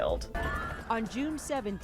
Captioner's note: sirens beeping